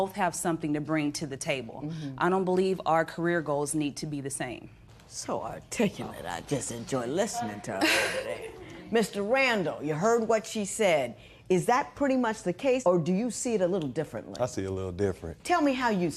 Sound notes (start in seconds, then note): 7.8 laughter